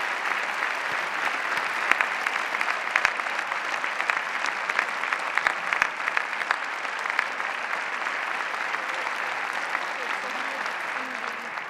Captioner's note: applause